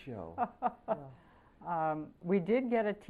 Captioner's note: laughter